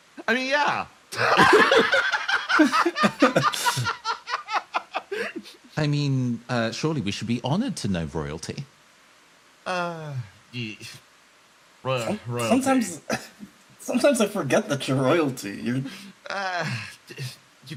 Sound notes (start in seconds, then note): 1.1 laughs